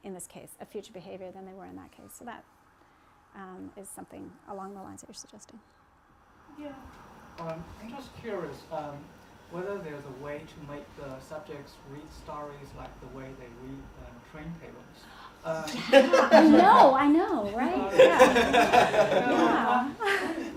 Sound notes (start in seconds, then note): 17.9 laughter